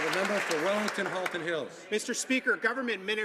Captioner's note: some Applause